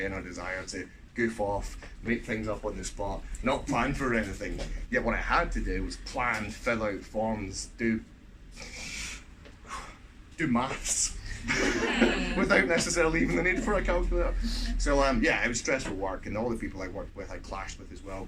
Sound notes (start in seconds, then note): 8.6 sharp intake of breath